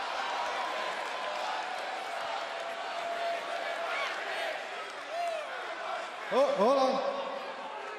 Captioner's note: crowd chatter